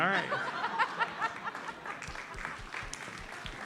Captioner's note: audience laughs; audience applauds